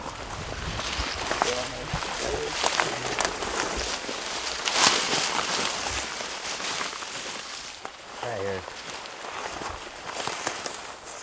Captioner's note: walking noises